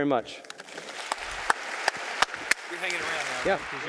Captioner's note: audience applauding